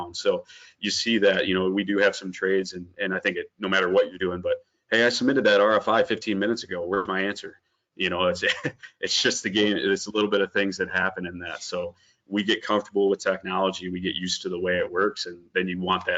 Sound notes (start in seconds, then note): 8.4 laughs